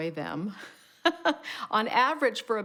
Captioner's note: laughs